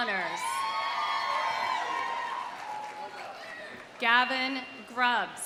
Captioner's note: audience cheering; audience applauding